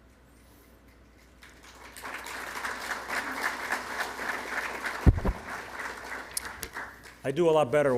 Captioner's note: applause